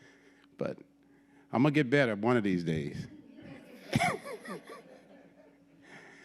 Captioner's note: laughs